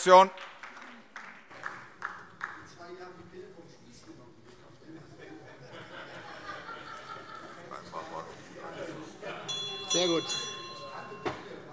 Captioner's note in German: Anhaltende Unruhe - Glockenzeichen